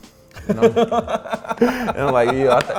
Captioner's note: laughing